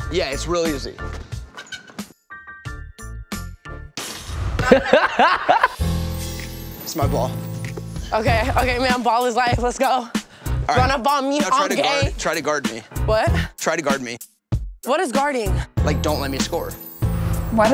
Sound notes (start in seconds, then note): 1.9 hoop creaks; 4.0 loud thud; 4.6 laughs